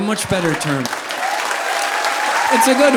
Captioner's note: audience applauding; audience laughing